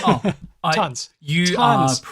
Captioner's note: laughs